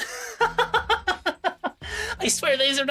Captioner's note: laughs